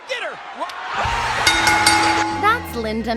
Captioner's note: audience Goes Wild